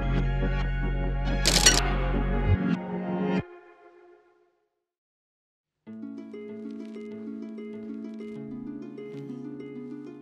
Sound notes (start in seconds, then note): 1.4 film clinks; 5.8 gentle music